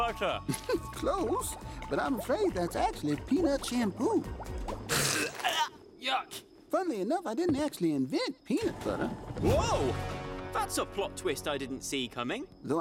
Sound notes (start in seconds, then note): 0.4 chuckling; 4.4 spitting, gagging